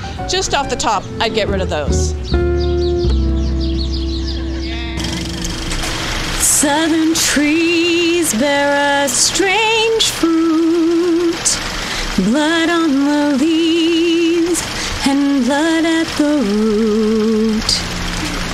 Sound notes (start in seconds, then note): 2.7 birds chirping; 2.7 gentle music; 5.0 film reel clacking